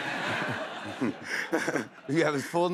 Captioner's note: laughter